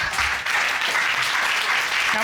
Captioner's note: applause